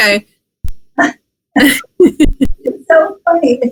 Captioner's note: laughs